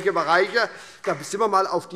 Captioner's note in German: Beifall SPD